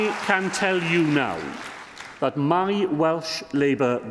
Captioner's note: applause